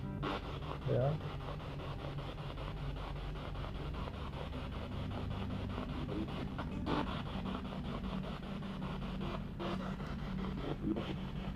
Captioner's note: radio noise from the spirit box